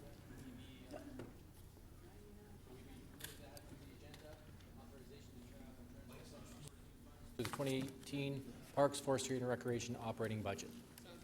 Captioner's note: off microphone